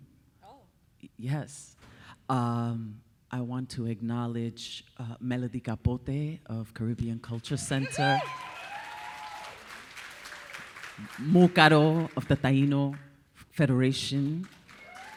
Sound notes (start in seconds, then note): 7.4 audience applauding; 7.5 audience cheering